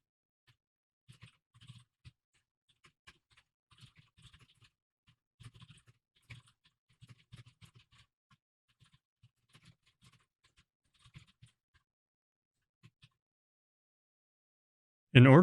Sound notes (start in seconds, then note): none